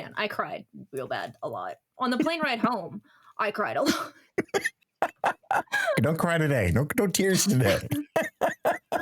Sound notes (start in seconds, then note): 5.0 laughing